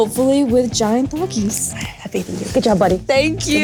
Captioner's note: whispers